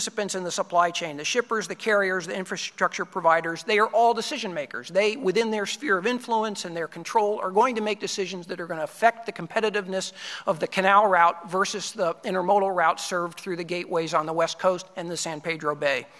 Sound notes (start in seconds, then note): none